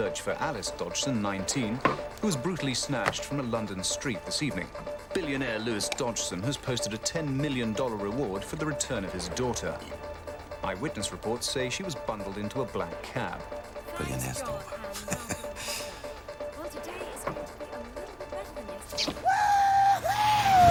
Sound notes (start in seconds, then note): 14.6 chuckles